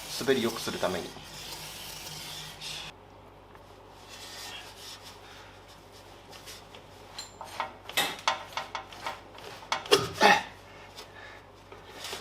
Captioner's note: working sound